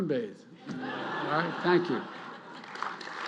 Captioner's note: laughter; applause